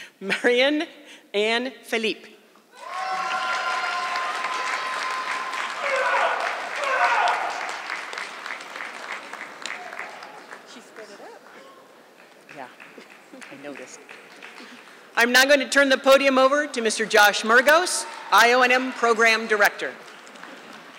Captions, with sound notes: Marion Anne Phillipe. (audience clapping) I am now going to turn the podium over to Mr. Josh Mergos, IONM Program Director.